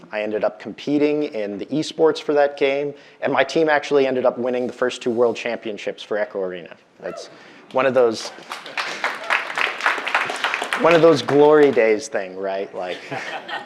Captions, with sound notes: I ended up competing in the e-sports for that game, and my team actually ended up winning the first two world championships for "Echo Arena." That's one of those, (audience applauding) one of those glory days thing, right? Like...